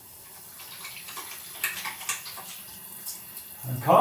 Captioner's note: hand washing noise